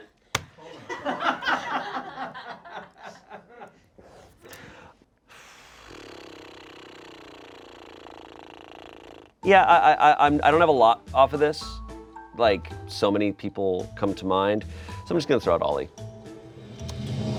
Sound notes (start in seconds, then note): 0.6 friends laugh; 5.6 flubbers lips; 17.1 intense music